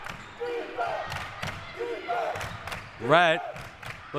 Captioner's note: clapping